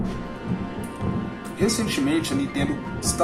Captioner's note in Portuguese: Som de Trovão